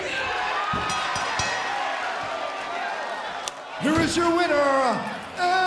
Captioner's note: bell ringing